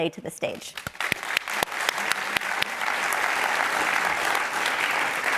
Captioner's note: applause